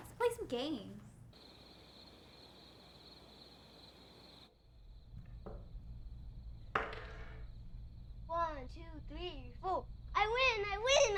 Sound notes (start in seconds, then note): 1.5 crickets chirping; 6.8 die rattles